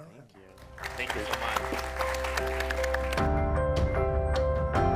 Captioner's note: audience applauds; cheerful music